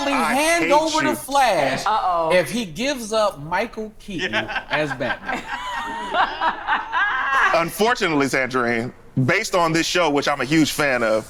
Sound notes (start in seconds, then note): 4.3 group laughs